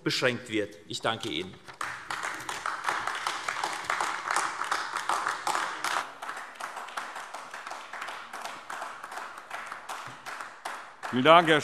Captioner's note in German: Beifall AfD